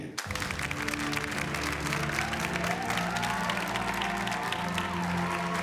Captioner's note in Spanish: aplausos